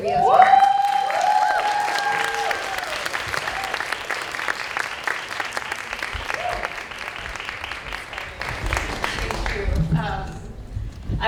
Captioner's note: applause